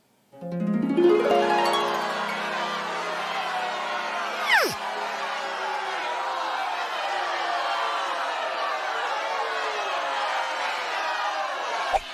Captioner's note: cheering